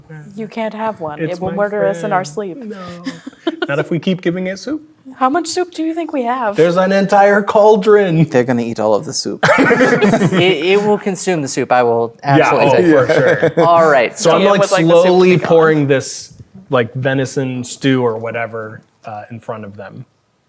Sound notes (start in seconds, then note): 2.7 chuckles; 9.4 players laughing